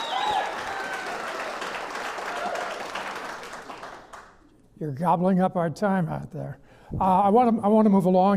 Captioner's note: clapping